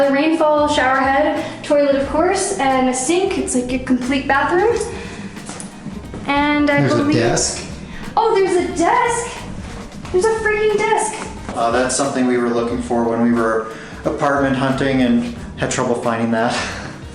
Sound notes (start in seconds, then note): none